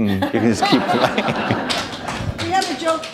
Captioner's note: laughter